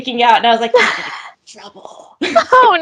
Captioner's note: laughs; both laugh